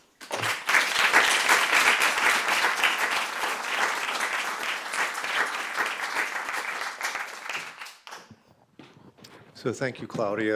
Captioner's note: applause